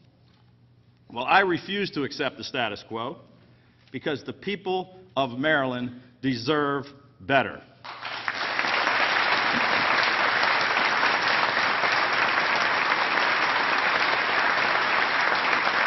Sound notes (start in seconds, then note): 11.2 applause